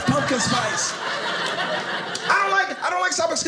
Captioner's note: audience laughing